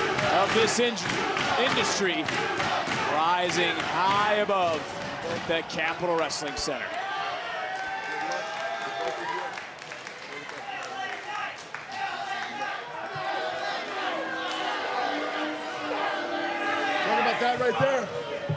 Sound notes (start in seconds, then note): 7.7 crowd chants